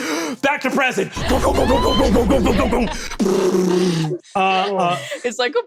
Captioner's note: vocalizes cannon fire